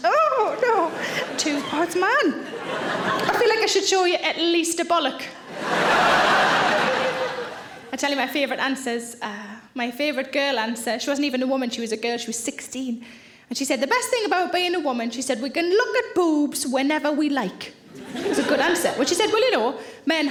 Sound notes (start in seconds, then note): 2.6 audience laughing; 5.4 audience laughing